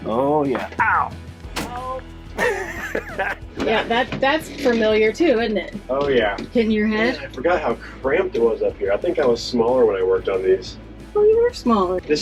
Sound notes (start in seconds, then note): 2.4 chucking